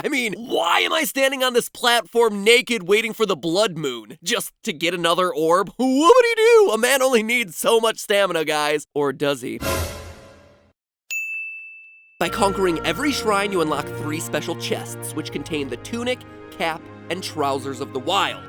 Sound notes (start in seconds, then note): 9.6 dramatic sound effect; 11.1 ding